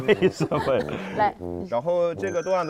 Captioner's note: laughs